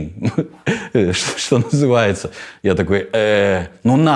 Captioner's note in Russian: смеясь